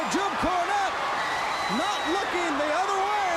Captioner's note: crowd cheering